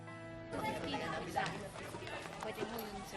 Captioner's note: busy chatter